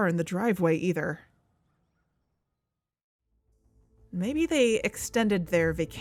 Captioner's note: ambience fades